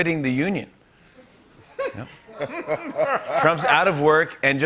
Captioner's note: laughter